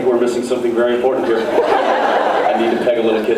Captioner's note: laughs